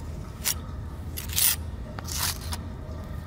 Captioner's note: scraping noise